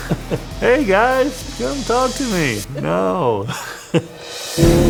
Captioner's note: laughs